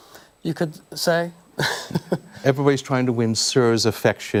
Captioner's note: laughter